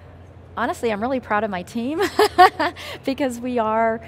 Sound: laughs

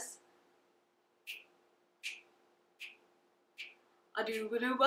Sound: fingers snap

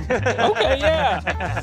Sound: laughing

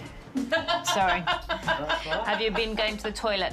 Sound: woman laughing

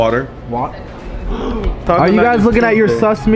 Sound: gasps

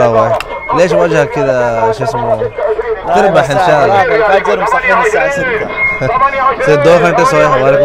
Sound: Arabic

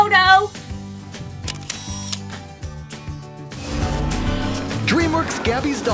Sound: shutter shot

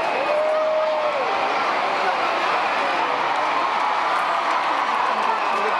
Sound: applause, crowds cheering

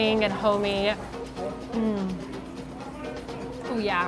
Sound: mmm

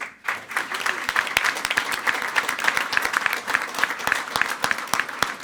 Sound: everyone applauding

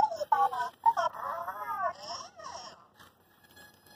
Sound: unintelligible robot language

